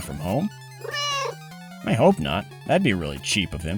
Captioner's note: meow